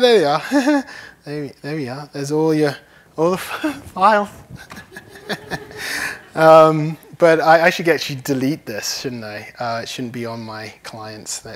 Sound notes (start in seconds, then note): 4.4 laughs; 7.0 laughter